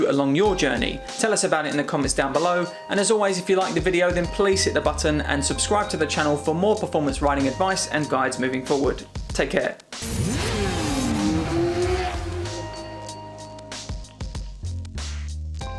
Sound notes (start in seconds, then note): 10.0 motorcycle zooms; 13.4 upbeat music